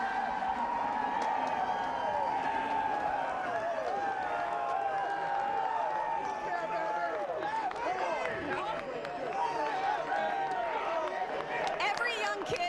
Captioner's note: applause